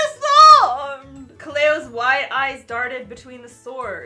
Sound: none

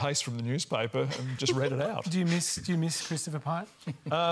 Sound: laughs

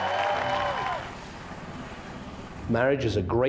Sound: audience applauding; engine humming

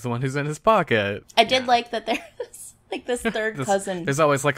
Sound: laughs

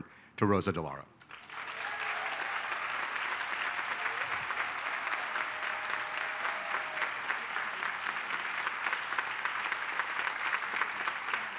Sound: applause

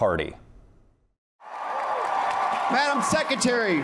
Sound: cheering

